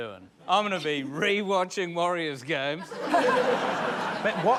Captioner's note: laughter